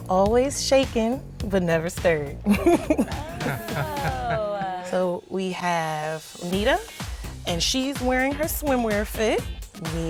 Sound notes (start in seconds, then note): 2.5 chuckling